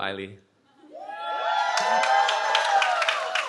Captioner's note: cheering